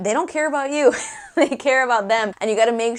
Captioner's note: laugh